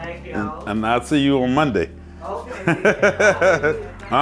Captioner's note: laughs